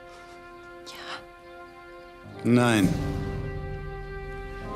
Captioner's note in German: flüstert